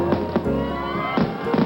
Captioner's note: crowd cheering; cracking, popping